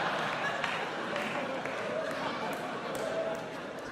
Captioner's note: audience laughs